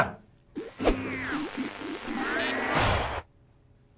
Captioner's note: buzzing